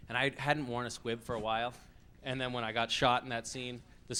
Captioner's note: none